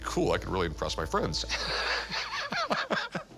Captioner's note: laughs